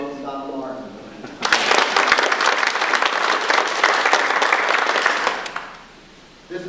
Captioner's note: audience applause